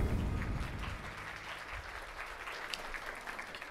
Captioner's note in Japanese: 拍手